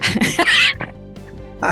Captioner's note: laughing